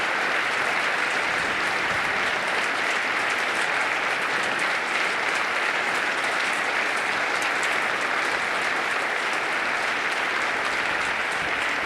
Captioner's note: applause